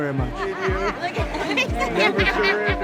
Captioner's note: laughing